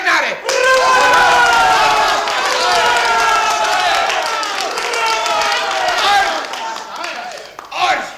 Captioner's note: applause